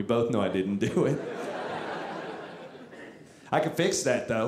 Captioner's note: audience laughing